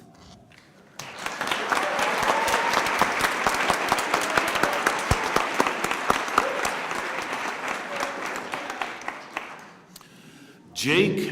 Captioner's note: speaking spanish; applause